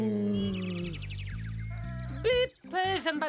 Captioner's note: birds chirping